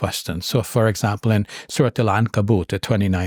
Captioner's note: speaks in Arabic